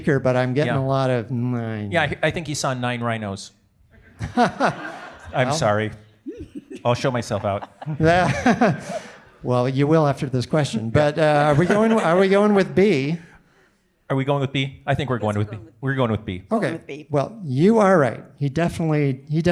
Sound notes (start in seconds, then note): 4.0 audience laughing; 6.2 laughs